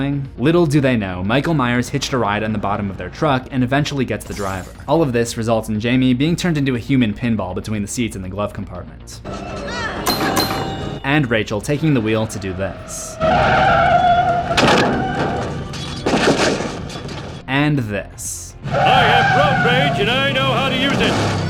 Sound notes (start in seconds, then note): 9.2 pinball game noises; 13.2 screeching brakes